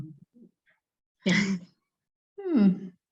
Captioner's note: chuckling